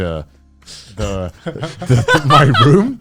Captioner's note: laughing